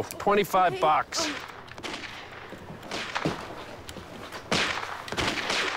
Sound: video game Gunshots

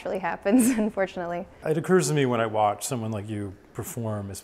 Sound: laughs

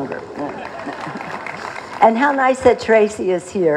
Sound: laughter; applause

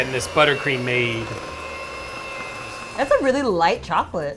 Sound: mixer whirring

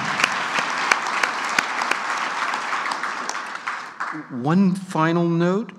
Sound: clapping

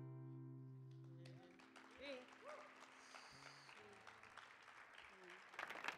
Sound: audience applauding

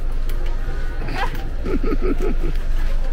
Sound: evil laugh

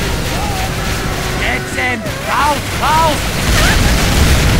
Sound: minigun firing; bang! bang!

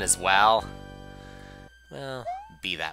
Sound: sigh

